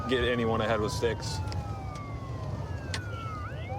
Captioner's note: sirens wailing